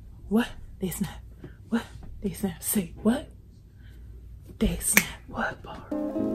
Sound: snaps

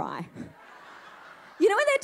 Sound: audience laughing

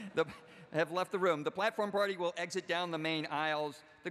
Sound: laughter

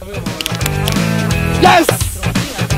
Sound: hands slapping; rock music

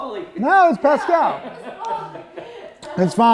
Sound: background chatter

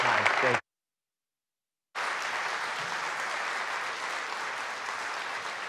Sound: audience clapping

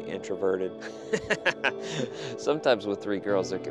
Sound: laughs

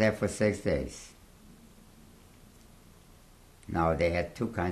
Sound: pauses for 3 seconds

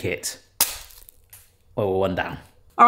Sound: cone cracks

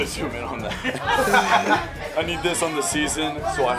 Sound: laughter

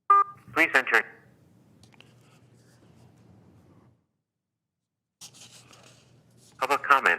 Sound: playing message on phone

